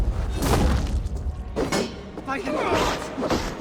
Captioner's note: none